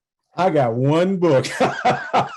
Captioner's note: laughs